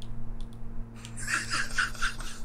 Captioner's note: laughs